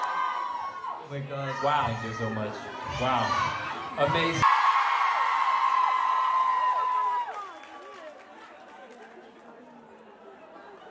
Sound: ปรบมือ

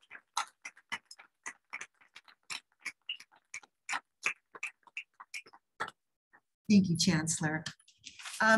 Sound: applause

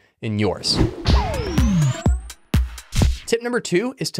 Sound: air whooshing; gentle upbeat music

